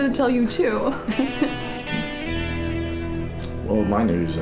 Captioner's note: woman giggles